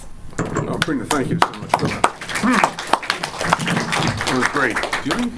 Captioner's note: audience clapping